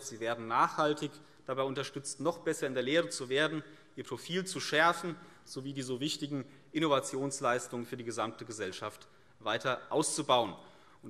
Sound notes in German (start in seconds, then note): none